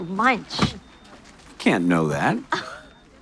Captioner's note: Esme laughs